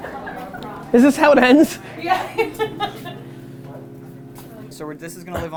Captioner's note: laughs